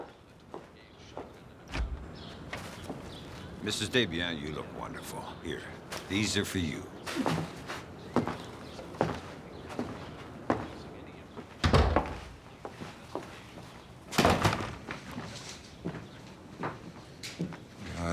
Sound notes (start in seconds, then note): 0.1 footsteps clomping; 8.3 footsteps clomping; 11.6 doors thudding; 14.1 footsteps clomping